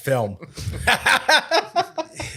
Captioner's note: laughing